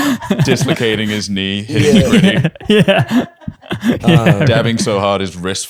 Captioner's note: laughter